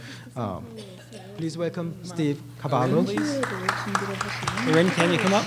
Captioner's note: applause